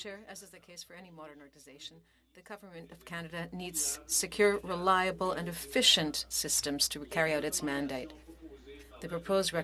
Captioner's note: speaking French